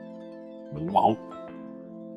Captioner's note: mouth noise